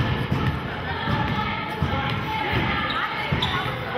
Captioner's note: chanting